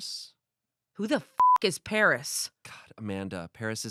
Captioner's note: beep